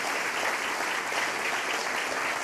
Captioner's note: applause